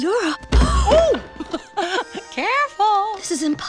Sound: giggling

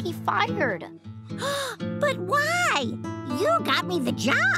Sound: gasping

